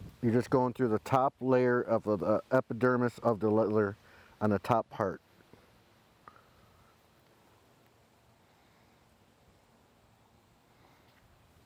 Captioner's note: silence